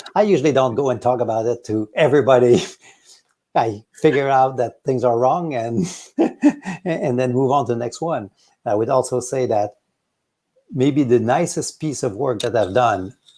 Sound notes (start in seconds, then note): 5.7 laughing